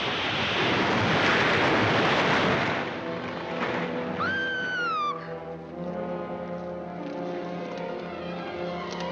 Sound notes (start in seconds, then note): 0.1 tree crashes; 4.2 Alicia screams; 5.6 dramatic music